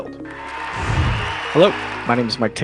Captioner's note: cheering